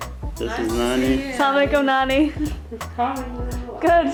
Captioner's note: speaking foreign language